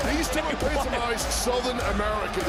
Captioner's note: laughs